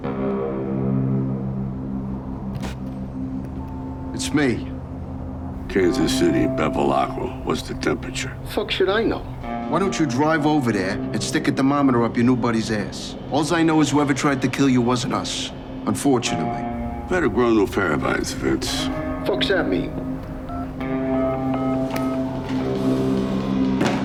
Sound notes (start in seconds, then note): 0.3 deep tense music; 2.7 phone sliding; 20.7 phone beeping; 21.5 dial tone beeping; 21.5 low tense music